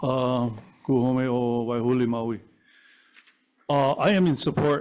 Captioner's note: speaking in foreign language